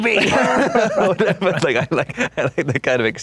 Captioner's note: laughs